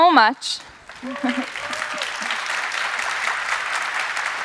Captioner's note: applause